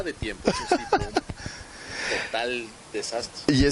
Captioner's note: laughs